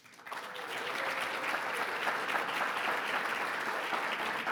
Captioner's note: audience clapping